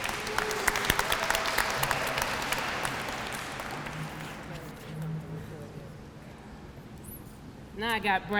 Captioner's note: applause